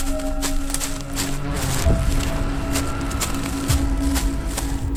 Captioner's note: foot steps running